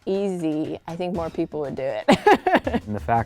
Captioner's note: laughs